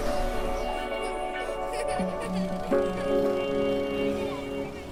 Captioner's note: children laughing